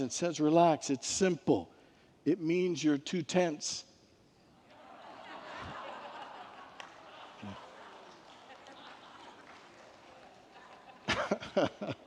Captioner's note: congregants laugh